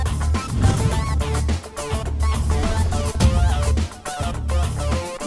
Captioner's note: swish and boom sound